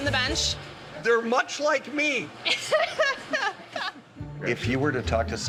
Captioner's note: laughing